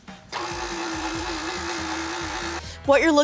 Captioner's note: mixer slowly whirring